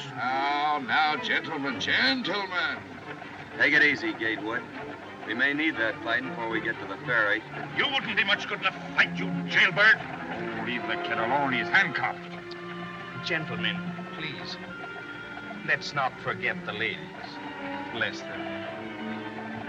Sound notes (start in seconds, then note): 12.4 Peacock Clicks Tongue